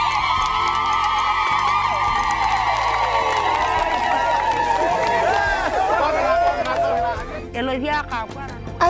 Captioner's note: cheering